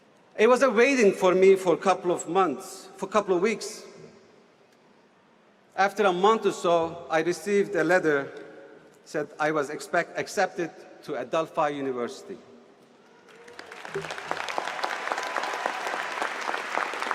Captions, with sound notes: It was a waiting for me for a couple of months, for a couple of weeks. After a month or so, I received a letter, said I was accepted to Adelphi University. [Applause]